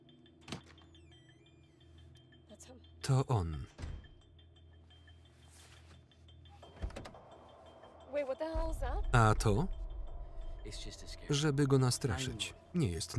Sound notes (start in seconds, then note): 3.7 door slams; 4.5 tense music; 6.7 door unlatching; 13.0 tense music